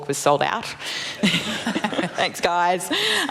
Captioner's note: laughter